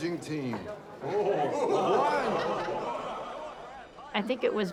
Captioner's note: people laughing